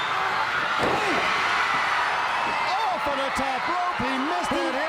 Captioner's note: crowd cheering